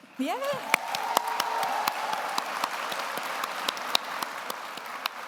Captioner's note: everyone applauds